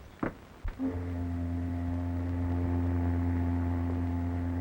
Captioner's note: horn ship honking